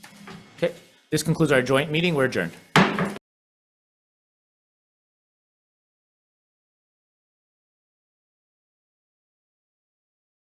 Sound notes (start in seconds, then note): 2.8 gavel slams